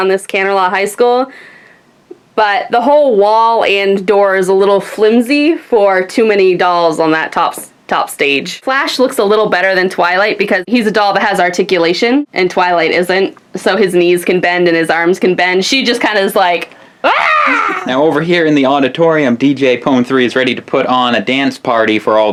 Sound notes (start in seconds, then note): 17.0 laughs